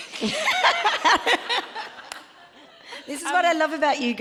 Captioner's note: both laughing